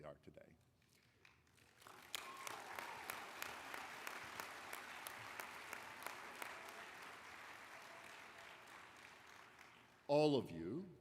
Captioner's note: applause